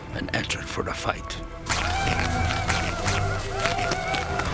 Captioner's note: war whoops